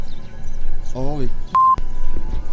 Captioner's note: beep